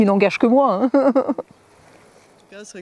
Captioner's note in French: Rires